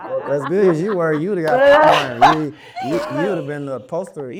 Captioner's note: all clamoring; laughing